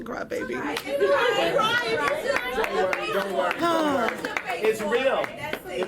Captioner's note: people chattering